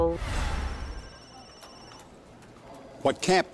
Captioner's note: phone ringing